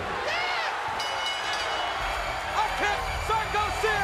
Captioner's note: bell dings